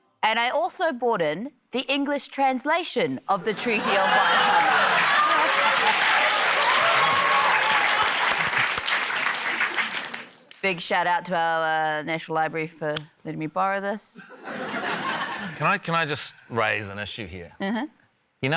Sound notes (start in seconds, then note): 6.2 laughter, cheering, applause; 14.2 laughter